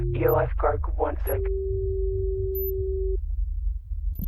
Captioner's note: beep boop